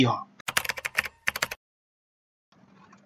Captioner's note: Natyskannja klaviš